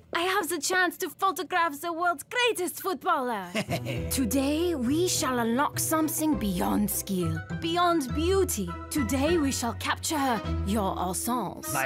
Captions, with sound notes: I have the chance to photograph the world's greatest footballer! (chuckling) Today, we shall unlock something beyond skill, beyond beauty. Today, we shall capture your essence.